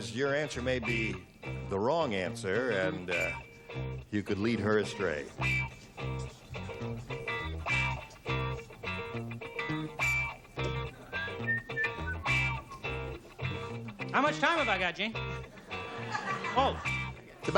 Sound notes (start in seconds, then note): 11.1 whistling